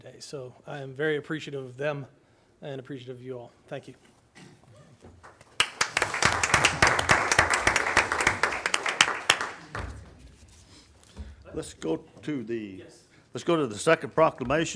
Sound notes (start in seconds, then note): 5.2 audience applauding